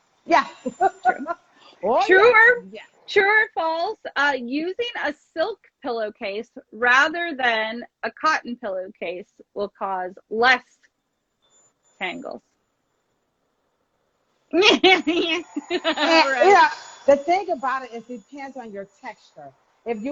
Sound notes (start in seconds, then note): 0.4 laughs; 14.6 laughs